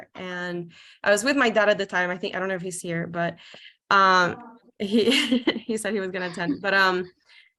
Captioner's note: laughs